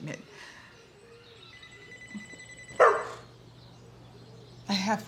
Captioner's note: phone ringing inside; Nala barking